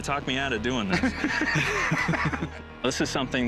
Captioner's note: both laugh